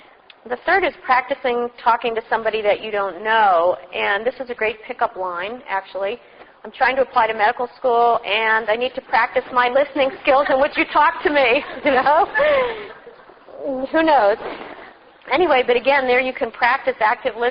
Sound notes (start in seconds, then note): 11.6 laughing